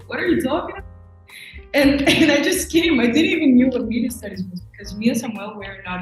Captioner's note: scoffs